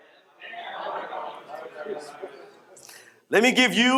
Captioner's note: audience repeating